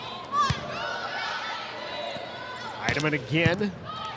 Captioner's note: ball thumping; players shouting indistinctly